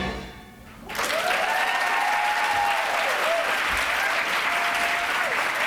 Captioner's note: applause